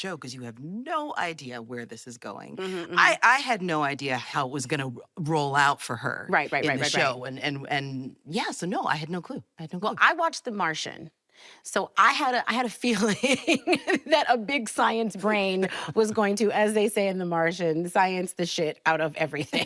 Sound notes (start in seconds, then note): 13.2 both laughing